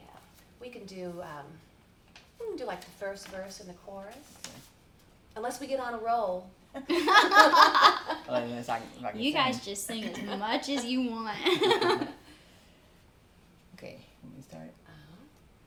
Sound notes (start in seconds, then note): 6.8 laughing; 11.4 chuckles